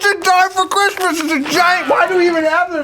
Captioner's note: ricochet